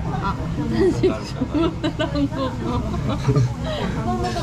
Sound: haha

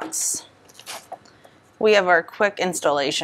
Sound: paper rustles

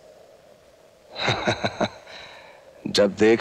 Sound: chuckles

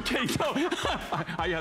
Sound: laughter

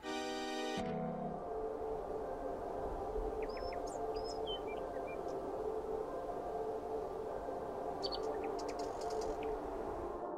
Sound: sound of wind, birds chirping, and distant music playing

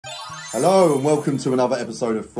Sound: chimes jingling

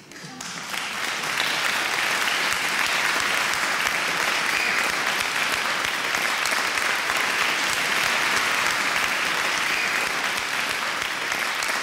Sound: applause

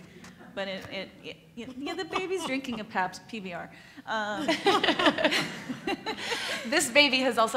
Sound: laugh

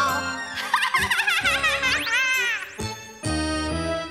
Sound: cackles

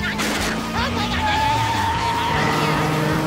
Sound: laughing; screeching

